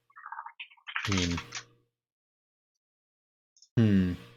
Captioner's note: keyboard keys clanking